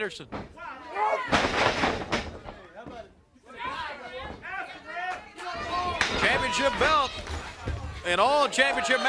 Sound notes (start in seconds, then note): 1.6 crowd chatter